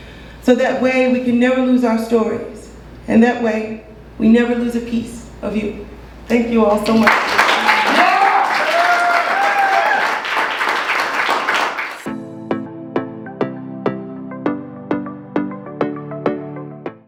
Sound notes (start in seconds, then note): 6.7 applause